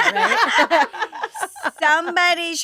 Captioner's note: all laughing